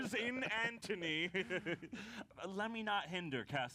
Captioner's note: laughs